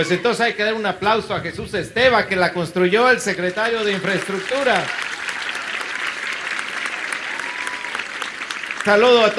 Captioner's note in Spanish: aplausos